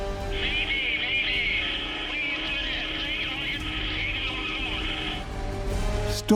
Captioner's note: man over radio